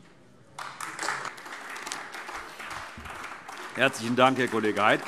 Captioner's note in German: Beifall AfD